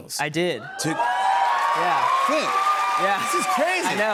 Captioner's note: cheers and applause